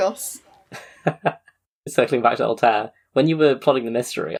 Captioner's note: laughs